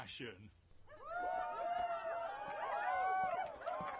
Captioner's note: crowd cheering and applause